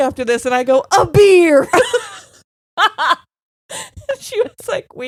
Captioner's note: both laughing